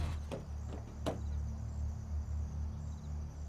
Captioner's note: car door clicks; soft suspenseful music